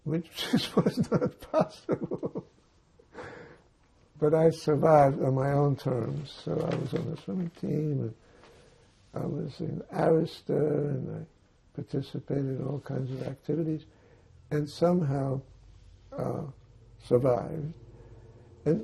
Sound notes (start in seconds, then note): 2.3 laughing